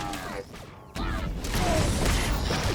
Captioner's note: gun shots